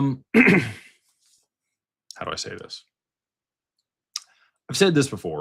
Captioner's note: clears throat